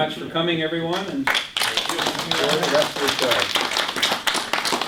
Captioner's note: audience applause